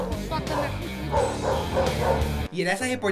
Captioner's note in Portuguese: latidos